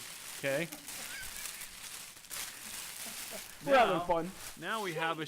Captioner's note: laughing